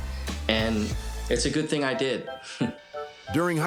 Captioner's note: chuckles